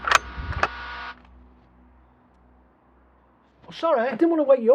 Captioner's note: rifle clicking